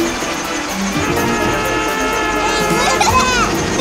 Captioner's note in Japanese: 車のクラクション